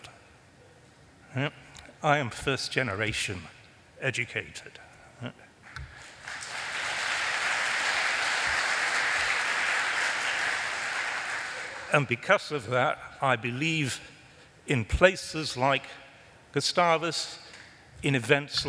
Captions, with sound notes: WERE JUST 12 YEARS OLD. I AM FIRST GENERATION EDUCATED. [ APPLAUSE ] AND BECAUSE OF THAT I BELIEVE IN PLACES LIKE GUSTAVUS, IN EVENTS